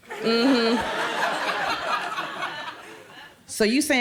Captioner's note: crowd laughs